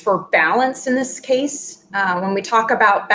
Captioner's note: speaking in Foreign Language